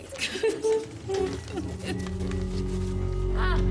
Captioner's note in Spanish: Sollozos